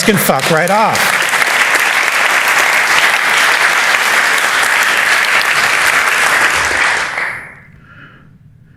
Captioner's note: applause